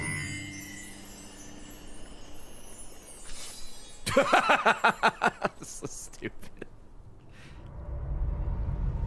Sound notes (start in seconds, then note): 4.1 laughs